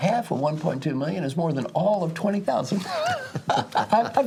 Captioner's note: laugh